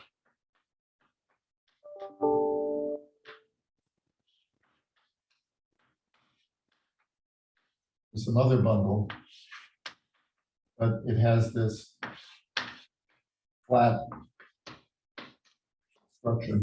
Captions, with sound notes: (chalkboard tapping loudly) (computer dings loudly) is another bundle, but it has this flat function,